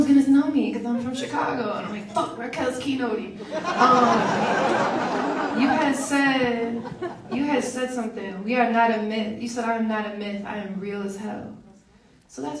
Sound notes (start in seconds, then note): 3.3 audience laughs